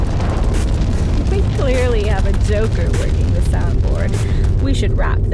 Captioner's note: another crashing sound